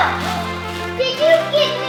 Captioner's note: assistant gasps